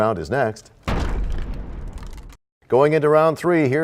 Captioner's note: crashing sound